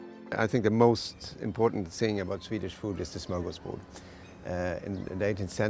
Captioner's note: chef speaking